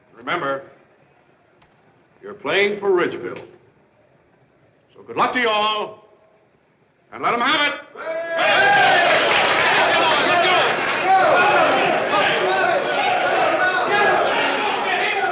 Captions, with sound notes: Remember, you're playing for Ridgeville. So good luck to you all, and let 'em have it! [ People applaud and cheer ] Come on, let's go!